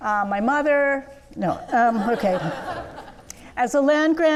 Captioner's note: laughing